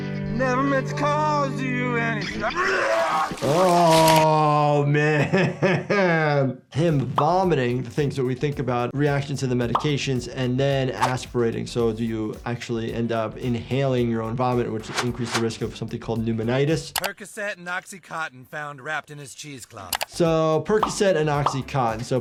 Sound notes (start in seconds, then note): 2.3 Chuck E. Cheese vomits loudly; 5.5 laughs